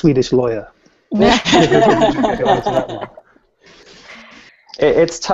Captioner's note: laughter